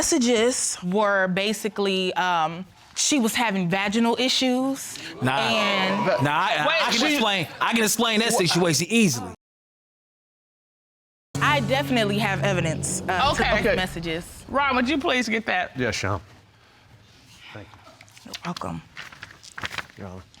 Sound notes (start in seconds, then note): 5.1 audience exclaims